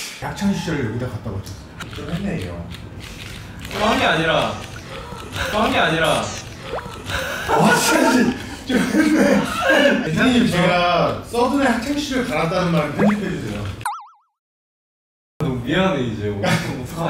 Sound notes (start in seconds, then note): 6.8 laughing